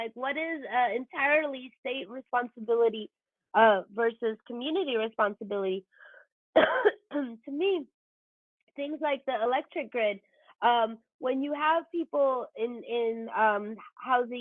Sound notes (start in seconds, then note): 6.5 coughs